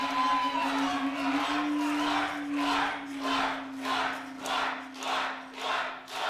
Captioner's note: crowd